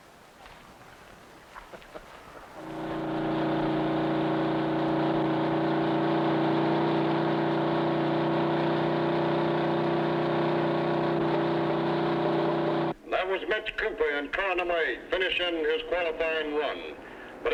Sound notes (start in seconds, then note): 2.1 Buddy laughing; 3.4 engines rumbling